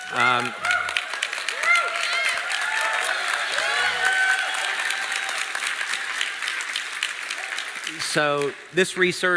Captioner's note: เสียงปรบมือ